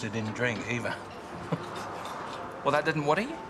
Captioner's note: chuckles